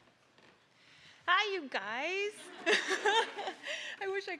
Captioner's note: all laughing